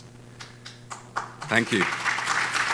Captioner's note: audience claps